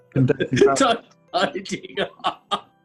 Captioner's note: laughing